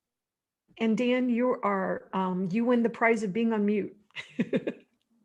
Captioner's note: chuckles; laughs